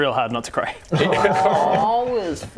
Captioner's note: collective "awww"